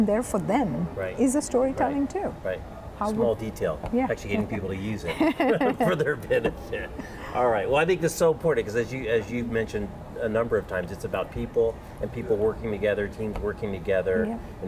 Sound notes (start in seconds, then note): 6.9 laughing